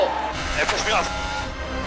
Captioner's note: Lewis Hamilton radio